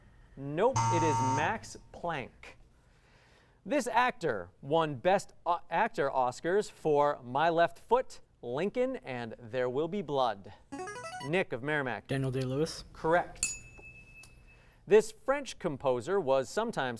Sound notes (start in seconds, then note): 10.4 ringing; 13.4 ding